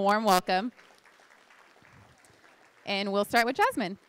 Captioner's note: applause